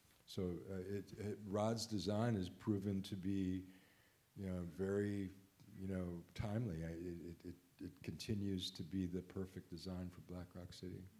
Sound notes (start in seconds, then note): none